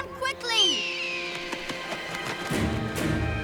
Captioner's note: eagle screeching; tense music